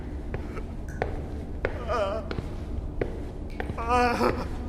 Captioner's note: distorted, tortured crying